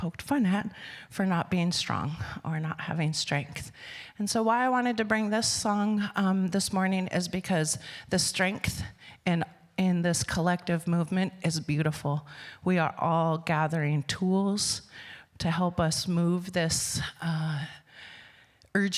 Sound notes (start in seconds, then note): none